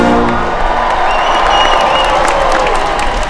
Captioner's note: applause